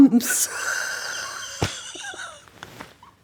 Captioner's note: laughing